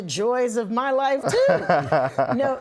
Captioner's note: laughing